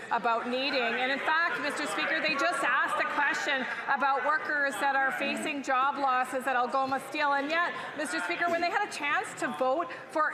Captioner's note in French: voix de l'interprète